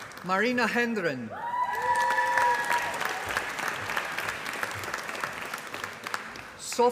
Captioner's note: applause